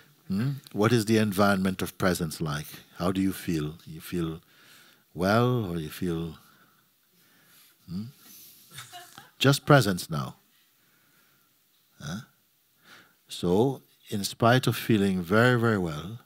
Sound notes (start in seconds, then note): 8.8 laughter